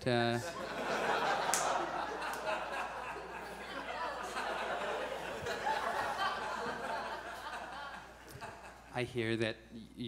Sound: audience laughs

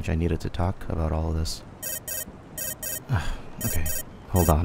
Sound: cell phone rings

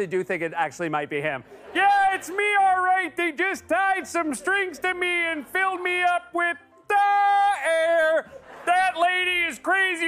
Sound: laughter; laughter

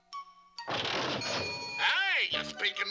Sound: cash register dings

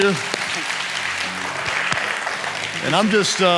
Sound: congregation applauding

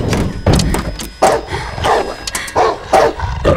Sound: barking

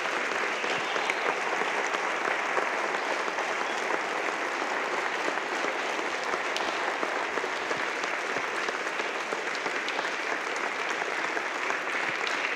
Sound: applause

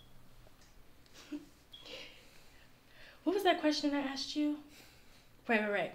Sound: chuckle

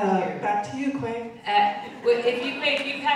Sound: audience laughing

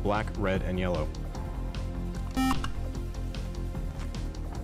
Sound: beep

